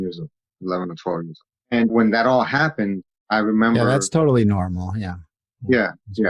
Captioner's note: sarcasm